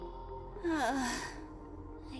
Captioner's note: sigh